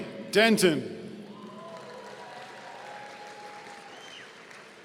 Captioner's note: audience cheering